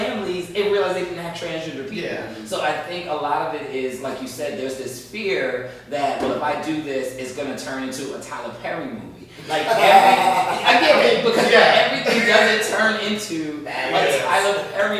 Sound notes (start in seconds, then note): 9.4 laughing